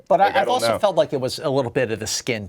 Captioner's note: laughing